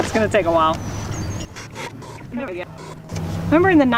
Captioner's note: squeaking noises speed up